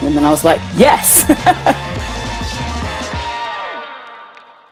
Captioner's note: laughing